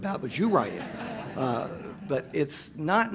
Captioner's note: audience laughs